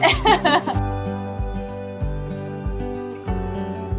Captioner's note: laughs; relaxing piano and guitar music